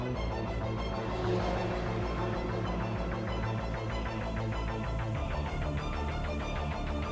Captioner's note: dramatic lively music; car engines roaring